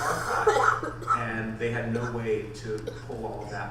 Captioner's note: audience member coughs